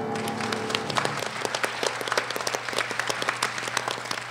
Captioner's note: applause